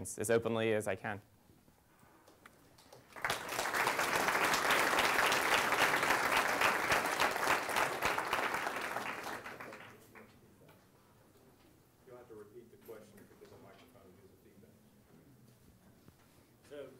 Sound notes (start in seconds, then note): 9.4 clapping